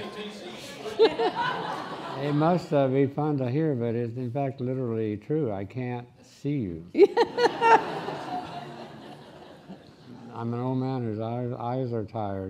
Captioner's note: laughing; laughing